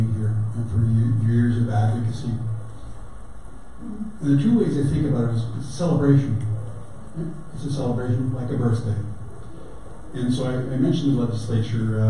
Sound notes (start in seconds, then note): none